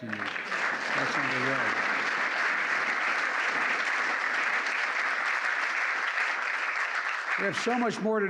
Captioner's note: applause